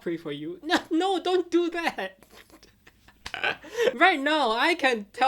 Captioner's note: laughing